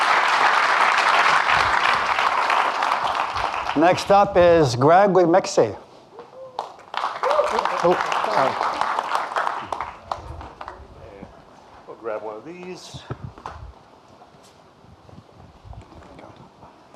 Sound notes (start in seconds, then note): 0.0 audience clapping; 6.4 audience clapping